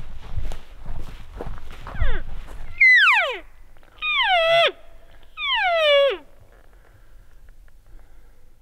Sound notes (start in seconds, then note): 2.7 caller cow calling